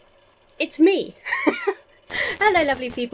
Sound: laughs

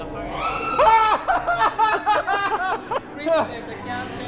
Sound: screams of horror

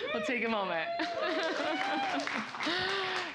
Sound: cheers and Applause

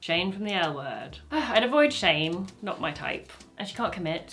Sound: she sighs

